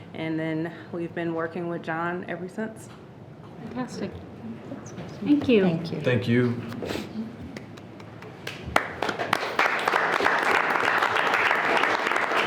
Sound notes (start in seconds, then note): 7.5 everyone clapping